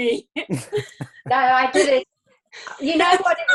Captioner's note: laughing